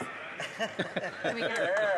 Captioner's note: some Applause